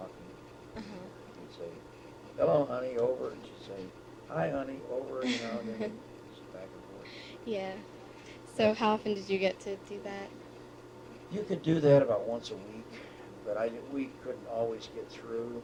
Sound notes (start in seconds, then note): 7.3 laughter